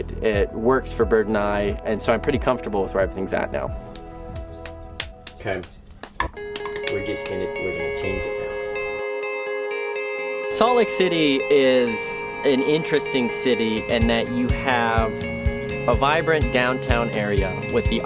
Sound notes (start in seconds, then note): 5.0 clapping